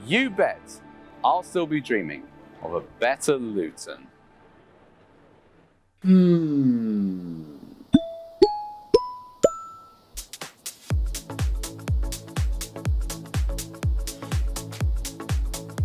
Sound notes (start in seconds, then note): 6.0 exhale; 7.9 ascending pop dings